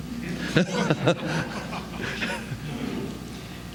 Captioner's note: laughter